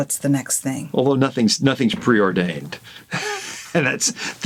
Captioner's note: chuckles